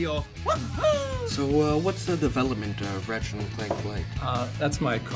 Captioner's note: voiceover